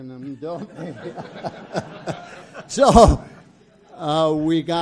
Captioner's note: audience laughs